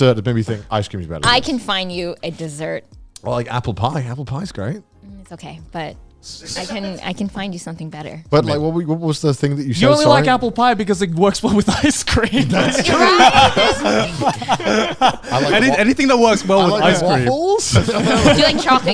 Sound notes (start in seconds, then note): 11.6 all laughing; 12.3 laughs; 17.7 all laughing